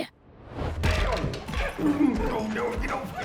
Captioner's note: sounds of scuffle